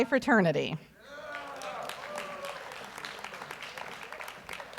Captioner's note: audience applauds